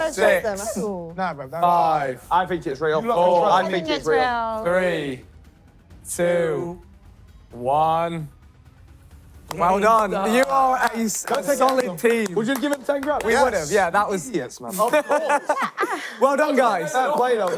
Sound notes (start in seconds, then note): 14.7 laughing